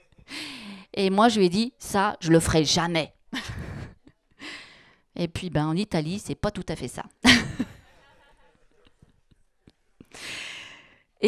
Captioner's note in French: elle rit